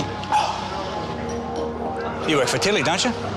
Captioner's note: sighs